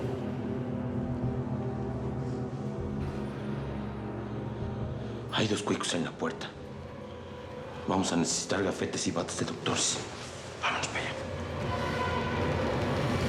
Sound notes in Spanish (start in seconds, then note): 5.6 en voz baja